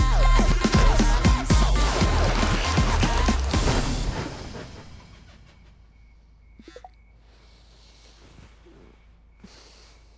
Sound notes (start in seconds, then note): 6.3 cell phone beeping